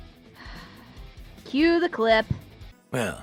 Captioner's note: sighs